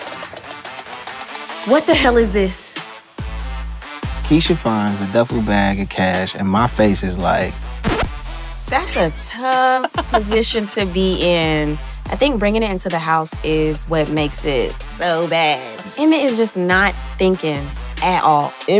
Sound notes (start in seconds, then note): 7.8 record scratch